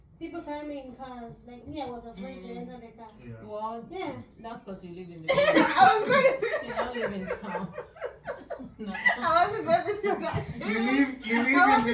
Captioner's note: laughs